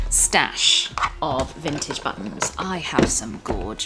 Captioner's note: box rustling